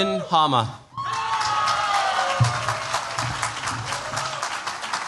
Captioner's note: cheers, applause